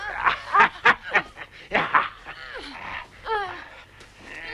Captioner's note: Torente laughing